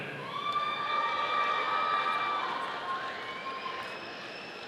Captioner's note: audience applauding